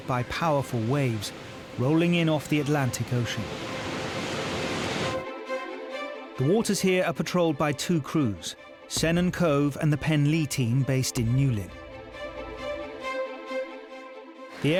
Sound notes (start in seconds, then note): 4.1 waves crashing; 5.4 dramatic music; 13.1 dramatic music continues